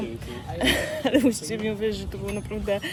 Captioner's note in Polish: śmiech